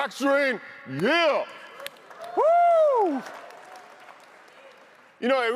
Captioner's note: audience applauds; whoops